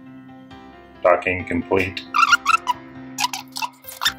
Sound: robot voice

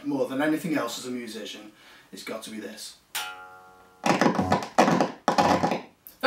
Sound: crackly amplifier noise

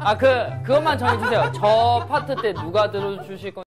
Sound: can't stop laughing

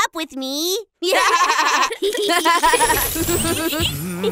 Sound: laughs

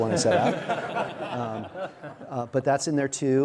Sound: audience and panelist laughing

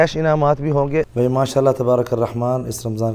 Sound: Arabic

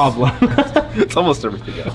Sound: laughs

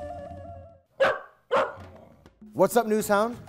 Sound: dog barks

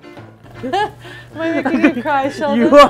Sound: laughs

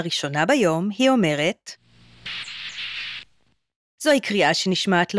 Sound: monkey noise

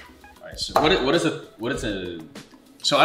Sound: weird stutters

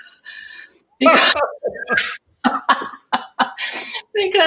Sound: laughter

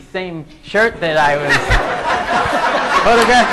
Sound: laughing

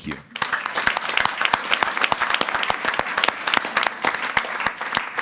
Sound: audience applauding

